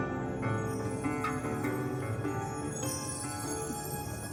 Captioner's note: mystical chiming